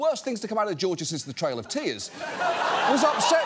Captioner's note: audience laughing